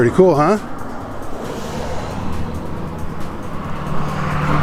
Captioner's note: cars whirring